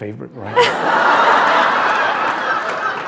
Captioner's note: laughter